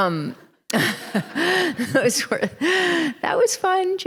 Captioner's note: laughter